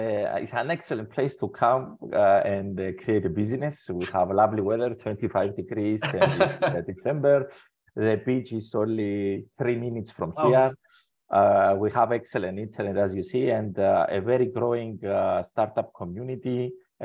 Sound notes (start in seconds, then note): 5.9 laughs